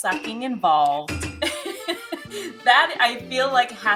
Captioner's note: laughs